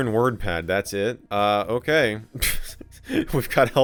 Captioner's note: laughs